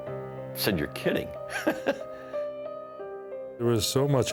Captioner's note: chuckles